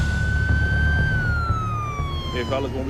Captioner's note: sirens